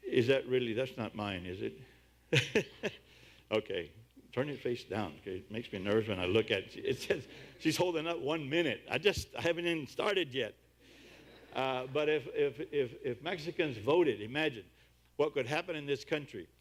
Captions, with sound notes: Is that really? That's not mine is it? [Laughs] Okay, turn it face down. It makes me nervous when I look at it. It says, she's holding up one minute. I just... I haven't even started yet! [Audience laughs] Ah, but if, if, if Mexicans voted, imagine what would happen in this country.